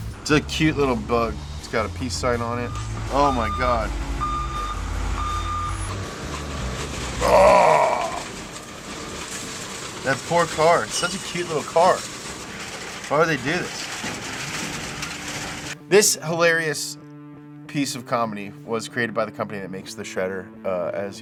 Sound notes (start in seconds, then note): 4.1 forklift beeps; 8.1 metal rattles